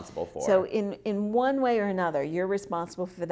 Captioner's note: voiceover